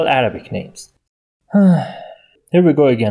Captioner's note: sigh